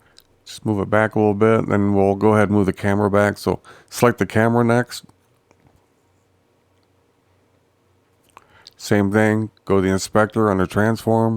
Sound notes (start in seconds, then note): 5.7 silence